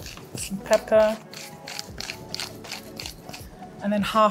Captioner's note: grinder grinding